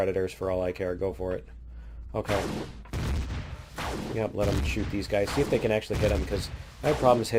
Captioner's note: plasma turret firing